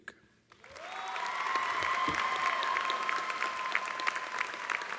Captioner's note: cheers and applause